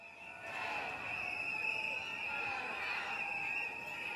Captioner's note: chanting, whistles blowing